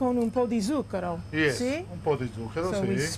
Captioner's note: speaking Italian